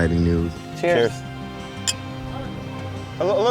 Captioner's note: glass clinking